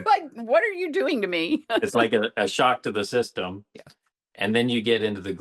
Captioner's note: laughs